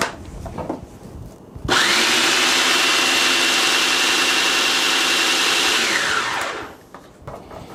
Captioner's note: mixer sounds